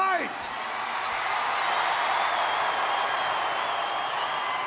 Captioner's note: audience cheering